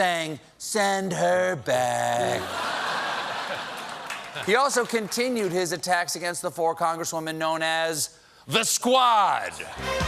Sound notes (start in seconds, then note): 2.3 laughter; 3.5 applause